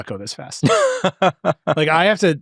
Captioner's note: laughing